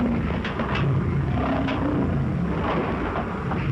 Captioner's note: lion snarling